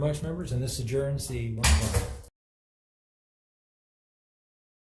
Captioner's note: gavel thuds